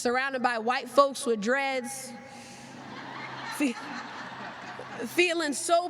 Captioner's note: laughter